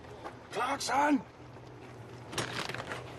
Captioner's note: quietly